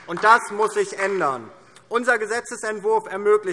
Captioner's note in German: Beifall DIE LINKE